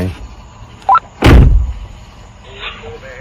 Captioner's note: car door bangs